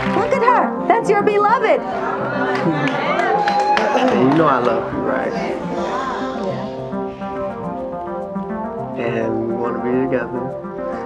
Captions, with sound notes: - Look at her, that's your beloved! (audience cheers) - And you know I love you, right? - Yeah. - And we wanna be together.